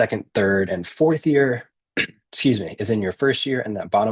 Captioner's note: clears throat